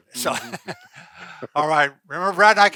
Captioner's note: laughing